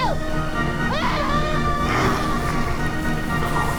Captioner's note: screaming; dramatic music